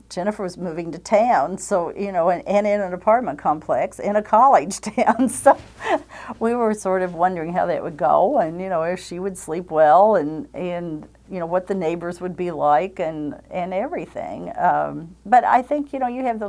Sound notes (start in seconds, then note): 5.0 chuckles